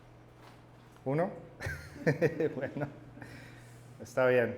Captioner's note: laughs